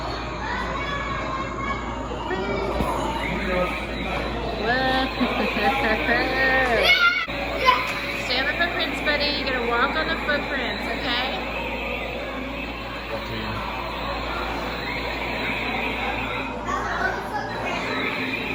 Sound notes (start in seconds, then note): 5.3 kids yelling and shooting their blasters